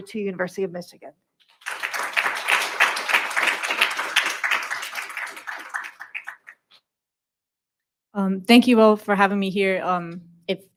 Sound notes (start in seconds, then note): 1.7 audience cheering